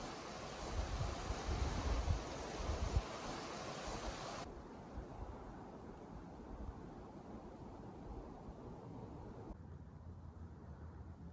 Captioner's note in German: Windgeräusch